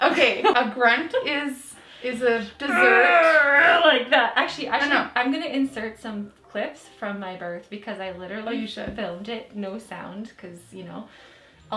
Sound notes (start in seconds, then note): 0.5 laughing; 2.7 grunting